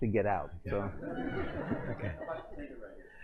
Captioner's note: laughter